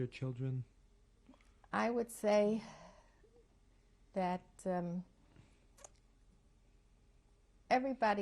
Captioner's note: pauses for 3 seconds